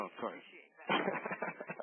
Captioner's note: laughter